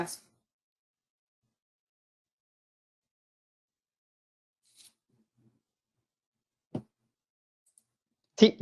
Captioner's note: silence